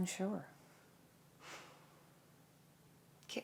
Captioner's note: exasperated sigh